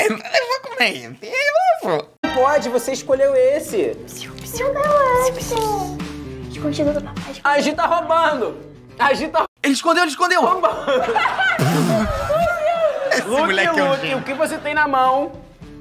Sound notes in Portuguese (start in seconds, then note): 6.7 sussurrando; 10.4 risadas